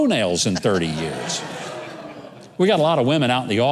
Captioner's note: crowd laughs